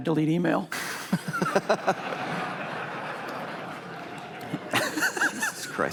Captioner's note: laughter